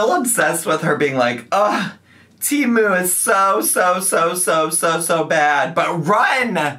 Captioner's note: groans